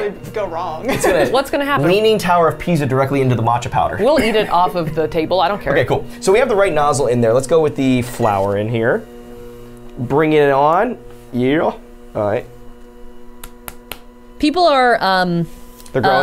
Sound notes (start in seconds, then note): 13.4 clapping